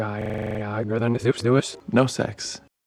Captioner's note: speaks backwards